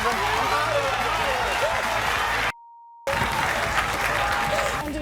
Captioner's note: crowd cheering